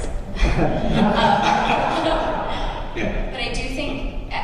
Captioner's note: laughter